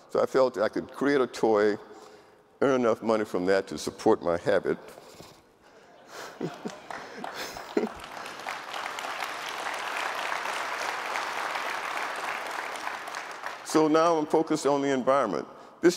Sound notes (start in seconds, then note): 5.8 laughs; 5.8 audience laughing; 6.4 audience applauding